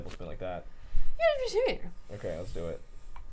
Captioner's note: squeakily mumbles